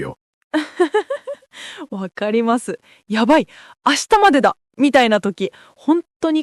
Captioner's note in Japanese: 笑い